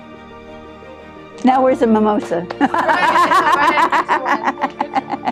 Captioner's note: laughs